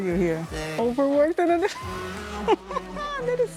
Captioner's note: laughs